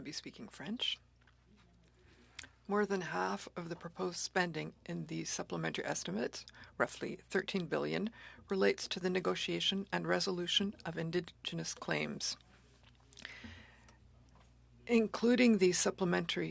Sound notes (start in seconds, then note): 6.5 speaking French